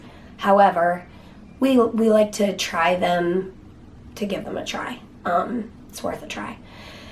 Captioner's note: none